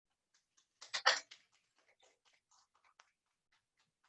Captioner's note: clapping